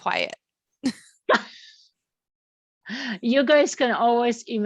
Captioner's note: laughs